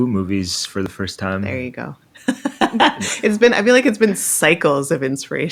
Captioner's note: laughs